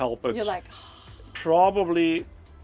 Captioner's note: sighs